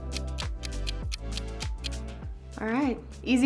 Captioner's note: clock ticks